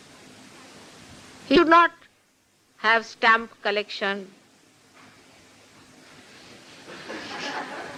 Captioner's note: laughter